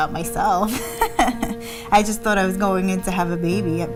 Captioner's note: laughing